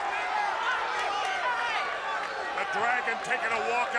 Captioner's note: crowd chatter